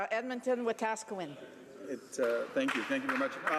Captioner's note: some Applause